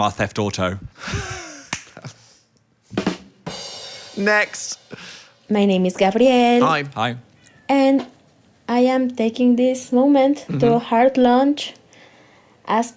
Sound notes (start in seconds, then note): 1.0 laughs; 1.4 rimshot plays